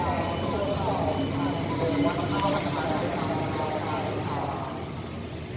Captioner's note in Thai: รถไฟกำลังเคลื่อนที่เข้าสู่ชานชาลา